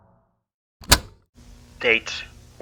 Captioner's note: cassette tape plays